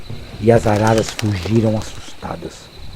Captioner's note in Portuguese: Bater de asas